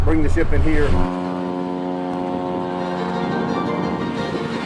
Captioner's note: ship honking